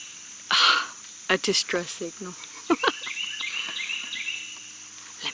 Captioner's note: laughs